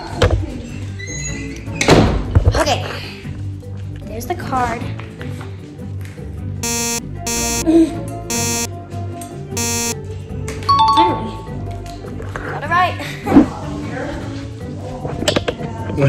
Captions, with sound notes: Okay. There's the card. (negative buzzing) (affirmative jingle) Finally, got it right.